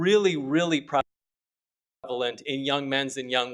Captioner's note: audio cuts out